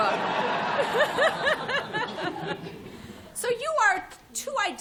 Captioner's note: laughter